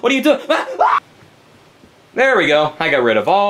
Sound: Luigi screams

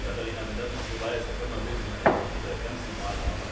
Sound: voices in the background

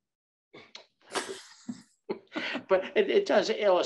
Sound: chuckle

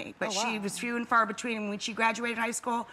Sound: none

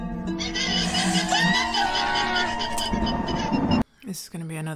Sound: llama alarm cries; woman screaming

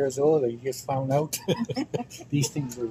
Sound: laughing

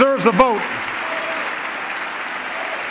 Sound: applause

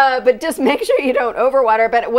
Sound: laughing

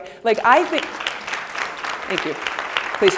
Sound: applause

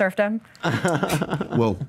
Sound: laughs

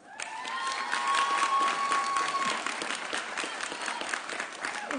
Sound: audience cheering

